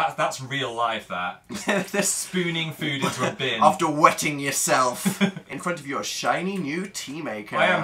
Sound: laughs

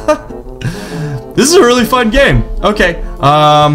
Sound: laughs

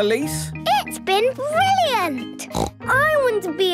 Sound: snort

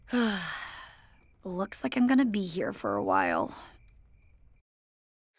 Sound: sighs

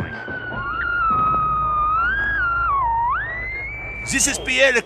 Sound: static

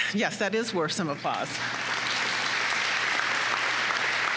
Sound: applause

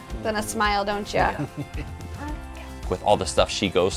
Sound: laughs

